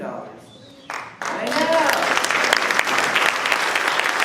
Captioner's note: applause